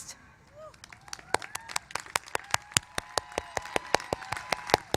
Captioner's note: applause